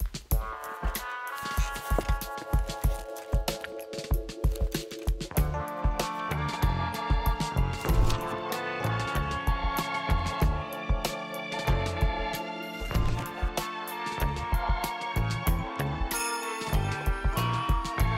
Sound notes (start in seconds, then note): 7.8 page turns; 13.0 page turns